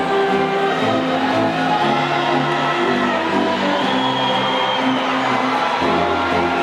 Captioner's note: audience faintly shouting and whistling